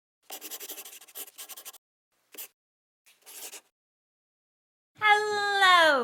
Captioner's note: the sound of a pen scratching